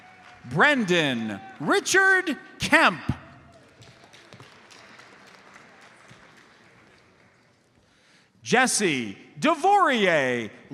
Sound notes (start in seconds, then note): 3.4 audience applauds